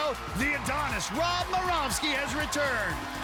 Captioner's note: countdown clock beeping